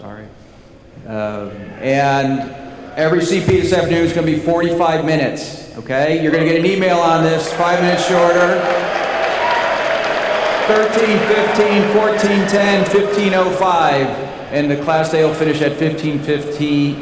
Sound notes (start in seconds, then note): 9.2 applause